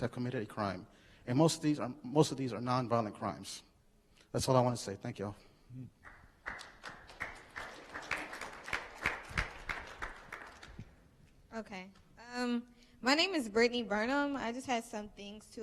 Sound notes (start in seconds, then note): 6.0 clapping